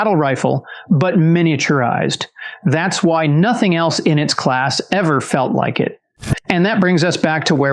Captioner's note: whoosh